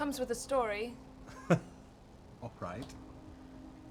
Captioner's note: laughs